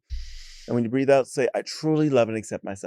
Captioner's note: inhales